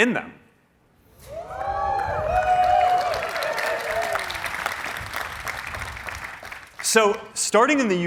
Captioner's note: cheering